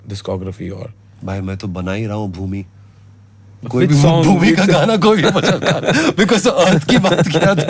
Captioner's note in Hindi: हंसी